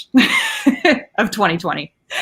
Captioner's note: laughing